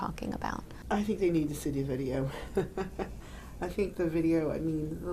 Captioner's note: chuckling